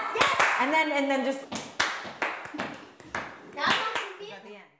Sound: clapping

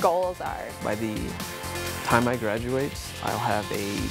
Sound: voiceover

